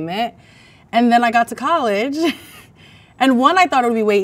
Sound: laughs

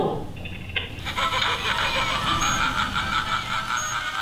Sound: evil clown laugh and carnival music

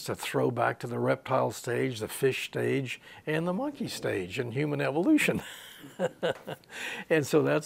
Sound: he laughs

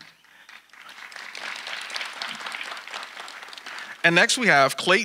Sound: audience applauding

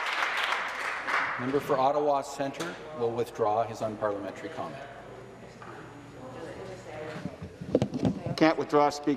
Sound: some Applause

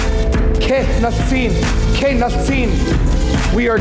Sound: foreign speaking

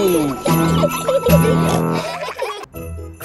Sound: children giggling; peppa snorts

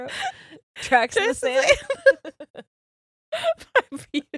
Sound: both laughing

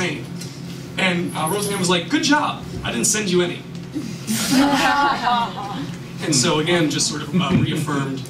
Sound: laughter

